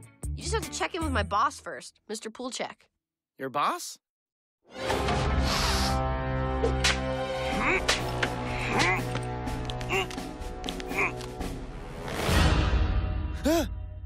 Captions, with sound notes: You just have to check in with my boss first, Mr. Poolchek Your boss? [ominous music] (Poolchek breaths in) (Poolchek straining) [Dipper gasps]